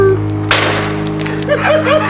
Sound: helicopter crashes; people laughing

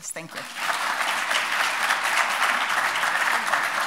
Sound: audience clapping

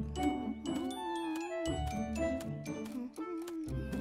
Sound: Pinkfong humming tune

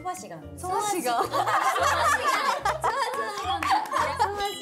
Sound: burst out in laughter

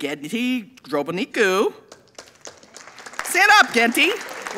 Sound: audience applauding

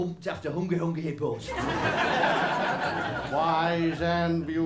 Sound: laughter

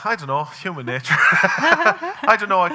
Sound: laughing

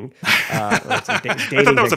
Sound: laughing

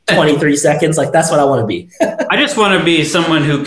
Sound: laughs

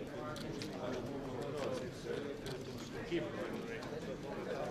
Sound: indistinct conversation

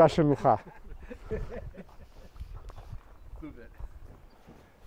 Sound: speaking in foreign language; man laughing

